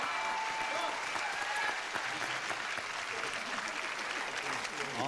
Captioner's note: crowd cheers